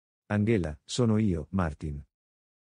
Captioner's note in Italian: none